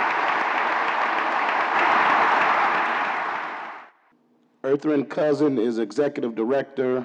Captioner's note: applause